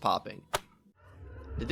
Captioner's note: pop